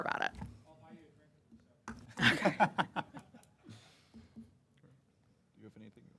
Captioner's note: laugh